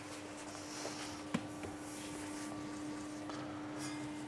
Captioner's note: quiet whirring of the devices